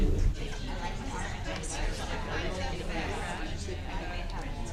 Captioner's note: background chatter